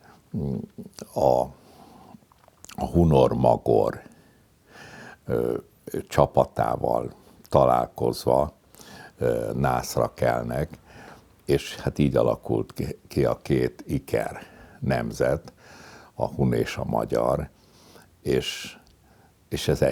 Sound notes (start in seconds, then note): 16.2 Hungarian